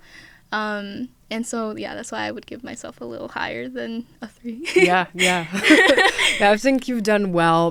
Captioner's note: laughter